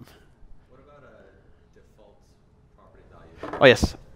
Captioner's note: voiceover